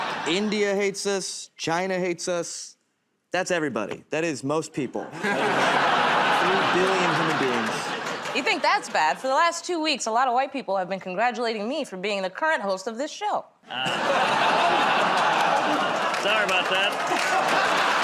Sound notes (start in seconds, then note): 13.7 laughter